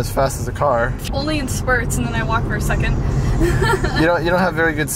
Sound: laughs

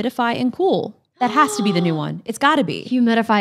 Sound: gasps

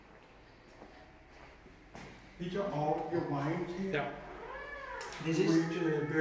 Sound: conversations in background

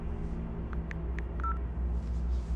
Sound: dials

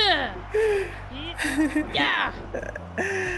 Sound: laugh

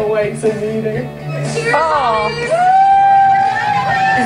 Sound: contestants cheering

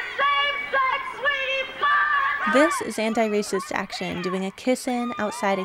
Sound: cheering

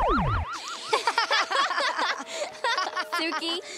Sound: laughing

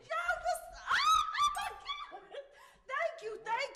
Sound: laughing

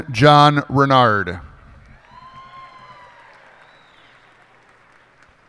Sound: cheers and applause

